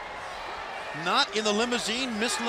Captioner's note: crowd cheering